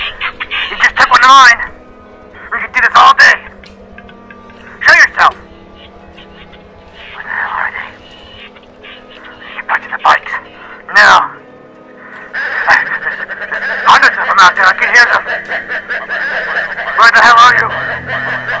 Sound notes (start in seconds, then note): 13.3 bird Sounds; 16.4 bird Sounds